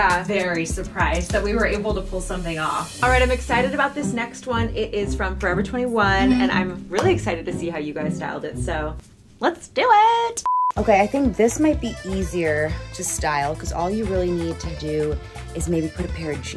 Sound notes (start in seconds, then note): 10.4 beep